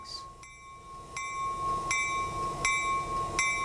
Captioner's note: bell ringing